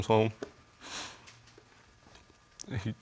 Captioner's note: sniffles